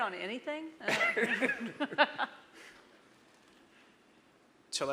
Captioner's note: all laughing